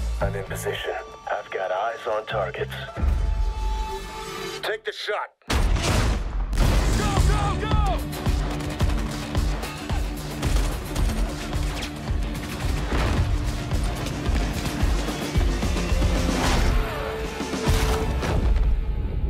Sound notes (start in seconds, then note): 8.0 gunshots